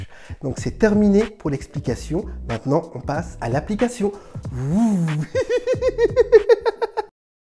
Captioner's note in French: rires